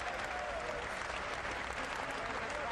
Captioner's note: applause